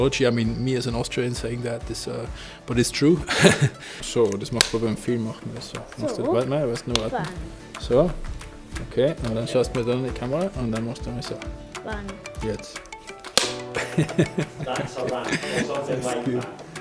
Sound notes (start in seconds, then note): 3.9 speaks foreign language